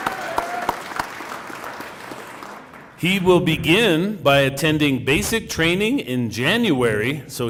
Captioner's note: cheering and applause